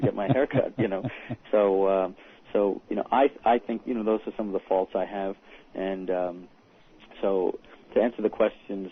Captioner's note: laughter